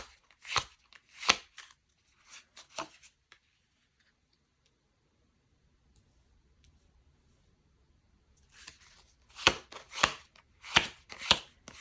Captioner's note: drawing cards